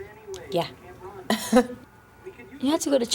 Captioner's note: Justine chuckles